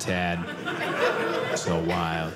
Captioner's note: audience laughing